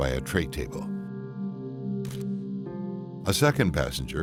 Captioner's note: sinister music; camera clicking